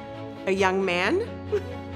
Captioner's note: chuckles